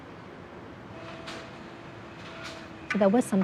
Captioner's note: buzzing of crane